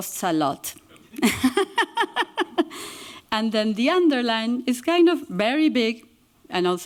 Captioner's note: laughs